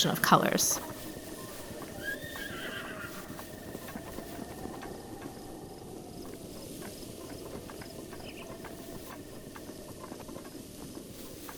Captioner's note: nature noises